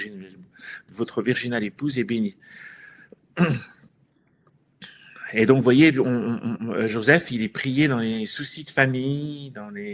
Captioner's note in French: raclement de gorge